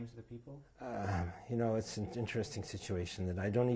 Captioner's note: sighs